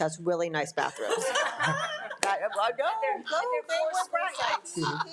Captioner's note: board laughing